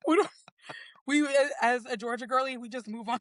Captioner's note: laughs